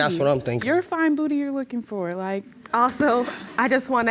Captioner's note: audience chuckling